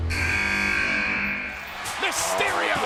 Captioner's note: buzzer sounds